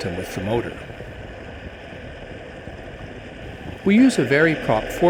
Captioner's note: engine running